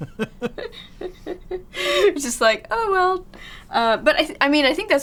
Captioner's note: laughs